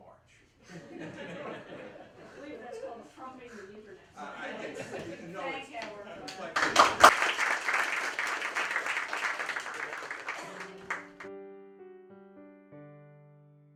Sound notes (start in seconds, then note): 0.6 laughter; 6.2 applause